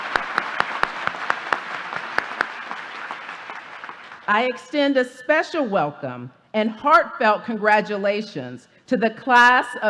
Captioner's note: applause